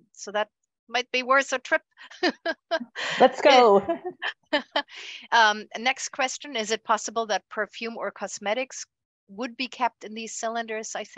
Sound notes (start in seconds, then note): 2.1 laughs; 3.0 chuckles